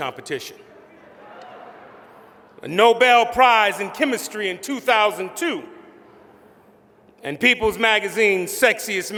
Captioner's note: laughter